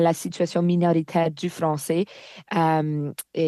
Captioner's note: speaking french